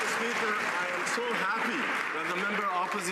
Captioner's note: some Applause